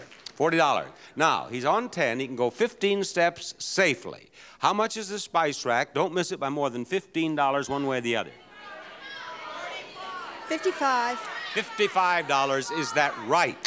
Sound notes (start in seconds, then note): 8.3 crowds screaming